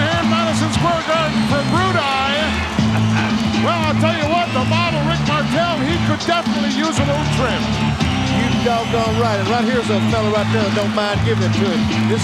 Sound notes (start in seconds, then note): 2.8 chuckling; 7.8 upbeat music